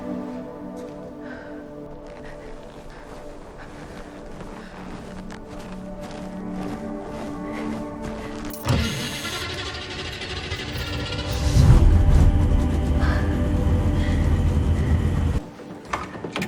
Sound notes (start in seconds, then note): 11.3 the engine revs to life